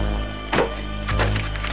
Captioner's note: car door